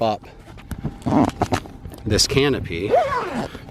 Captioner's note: zipper snapping